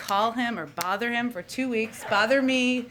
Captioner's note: laughter